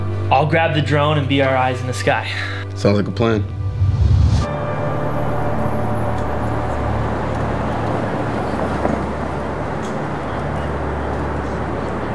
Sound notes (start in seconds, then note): 4.2 light dramatic music; 6.9 traffic humming